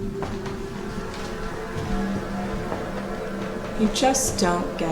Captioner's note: flies buzzing